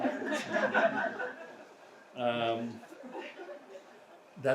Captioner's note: audience laughs